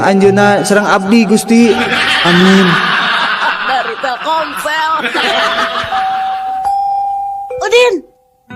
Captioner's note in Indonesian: tertawa